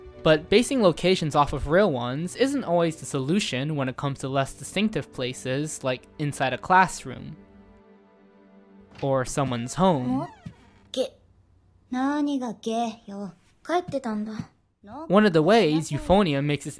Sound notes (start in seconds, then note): 11.0 Kumiko and Mamiko speak in Japanese